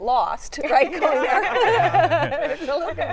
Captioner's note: laughter